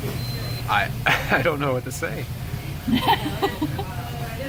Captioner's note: laughs